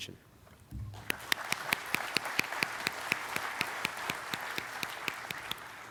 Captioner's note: audience clapping